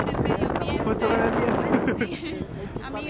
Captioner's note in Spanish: risas